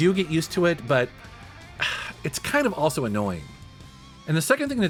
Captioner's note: sighs